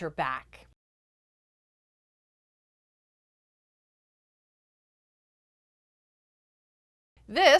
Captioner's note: no Sound Present